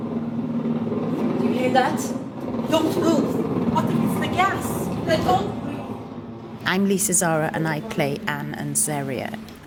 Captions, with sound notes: [gas hissing] Do you hear that? Don't move. I think it's the gas. Let's all breathe. I'm Lisa Zara, and I play Anne and Zeriyah.